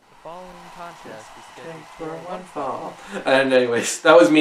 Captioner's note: announcer voiceover